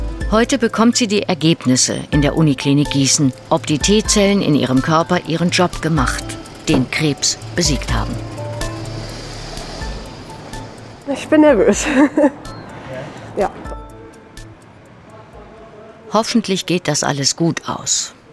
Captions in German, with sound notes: Heute bekommt sie die Ergebnisse in der Uniklinik Gießen, ob die T-Zellen in ihrem Körper ihren Job gemacht, den Krebs besiegt haben. (lacht:) Ich bin nervös, ja. "Hoffentlich geht das alles gut aus",